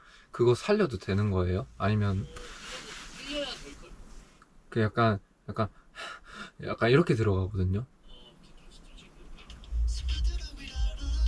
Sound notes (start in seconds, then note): 5.7 heavy breathing